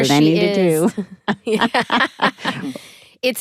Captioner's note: all chuckle